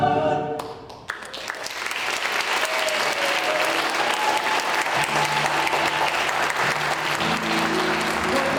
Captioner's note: applause